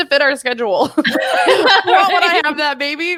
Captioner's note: laughs